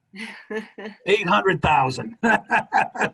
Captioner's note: laughing; chuckles